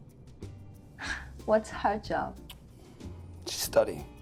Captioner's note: laughing softly